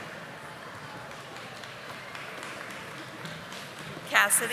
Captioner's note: audience applauding